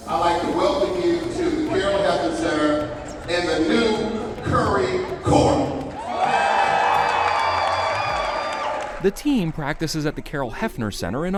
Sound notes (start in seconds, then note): 6.2 audience cheering